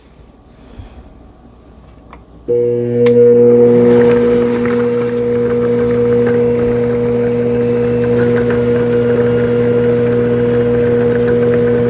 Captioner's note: mixer sound